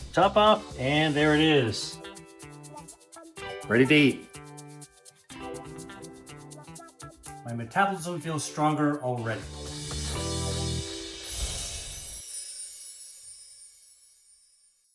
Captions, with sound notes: Top off and there it is. Ready to eat. My metabolism feels stronger already. (upbeat music) (twinkling)